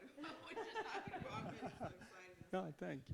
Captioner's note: all chuckling